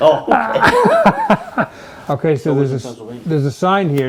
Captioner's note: laughing